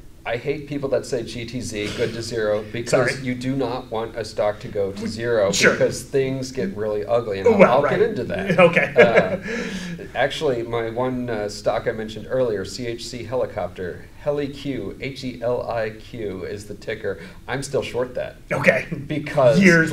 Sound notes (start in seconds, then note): 7.4 laughs